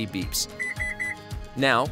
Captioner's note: electronic beeps